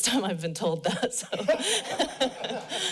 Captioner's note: laughs; laughter